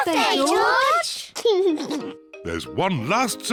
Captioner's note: laughs